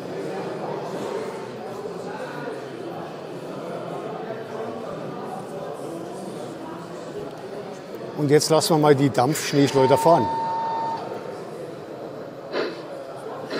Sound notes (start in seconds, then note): 9.6 locomotive whistle